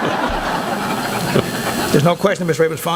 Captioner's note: laughing